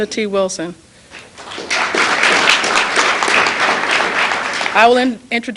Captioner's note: applause